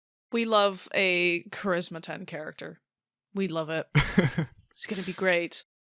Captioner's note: laughs